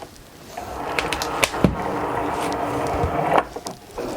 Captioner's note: machine buzzing